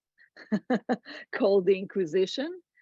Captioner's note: laughs